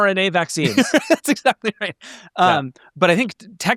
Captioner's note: chuckling